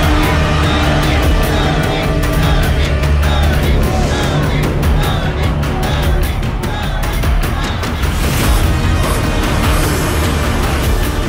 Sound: crowd Cheering

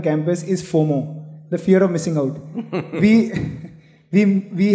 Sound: Sadhguru Laughs

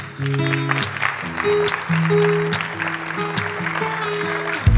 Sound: applause

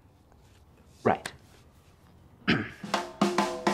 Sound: clears throat

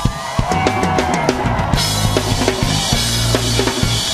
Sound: audience screaming; drum beat music

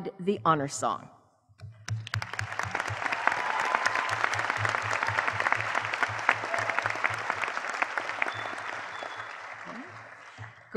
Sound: applause

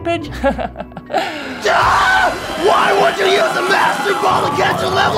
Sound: chuckles; yells

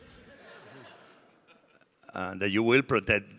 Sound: audience laughing

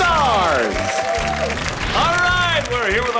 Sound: cheering

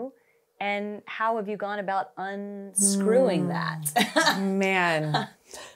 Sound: laughs

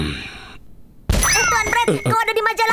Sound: bell rings

